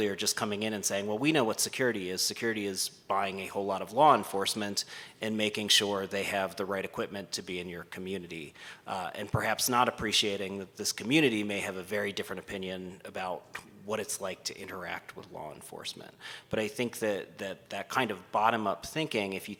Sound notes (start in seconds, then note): none